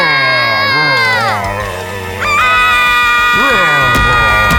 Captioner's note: shouting; growling; yelling; booming footsteps